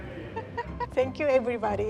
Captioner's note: chuckles